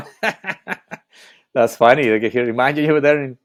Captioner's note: laughing